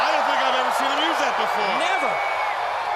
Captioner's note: crowd cheering